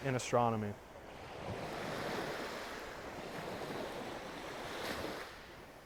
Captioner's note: waves softly crashing